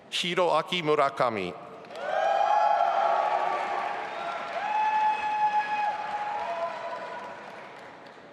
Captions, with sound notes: Hiroaki Murakami. (audience applauding and cheering)